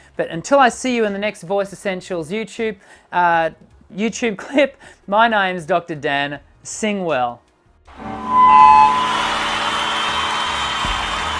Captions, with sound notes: But until I'll see you in the next Voice Essentials YouTube-- YouTube clip, my name is Dr. Dan. Sing well. [STUDIO CHEERING]